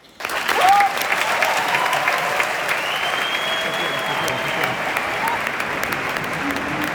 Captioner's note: applause and cheers; backstage ambient sound